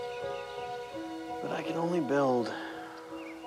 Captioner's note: sighs